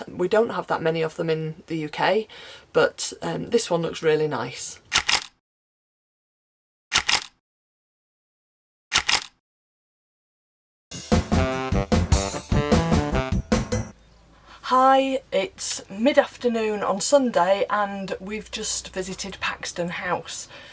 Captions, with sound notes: We don't have that many of them in the UK, but this one looks really nice. [Camera click] [Camera click] [Camera click] [Jazzy fill music] Hi, it’s mid-afternoon on Sunday, and we've just visited Paxton House.